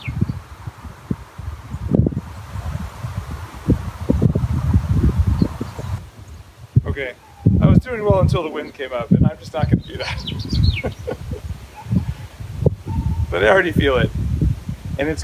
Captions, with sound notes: (wind blows harder) Okay, I was doing well until the wind came up. And I'm just not gonna do that. (laughs) But I already feel it,